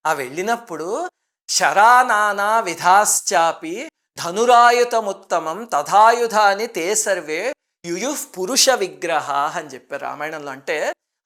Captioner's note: reciting a verse